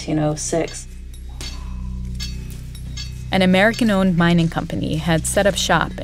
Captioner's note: soundbite of metal clanging